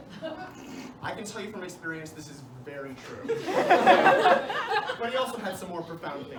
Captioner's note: laughter